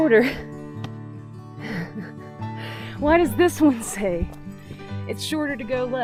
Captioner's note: laughing